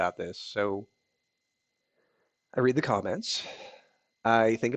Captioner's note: sigh